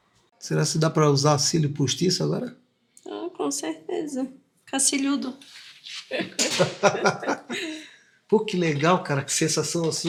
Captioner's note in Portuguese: risadas